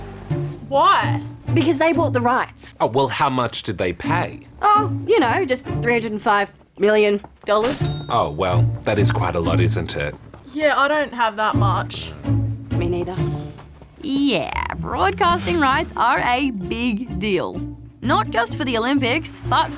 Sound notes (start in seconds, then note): 7.6 cash register tings